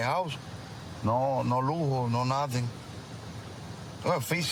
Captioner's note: speaking spanish